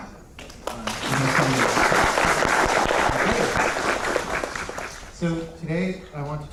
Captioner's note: applause